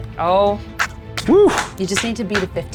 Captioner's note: claps